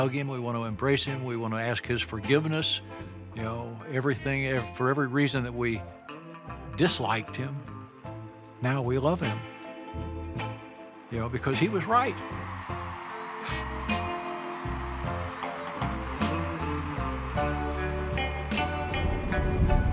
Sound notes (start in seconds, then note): 11.4 audience cheers; 12.3 gentle music